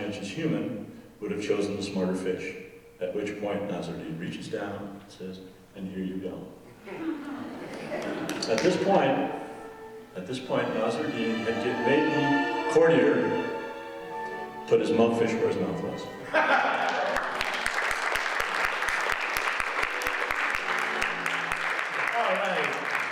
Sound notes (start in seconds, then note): 9.2 audience laughing; 17.9 audience laughing and applauding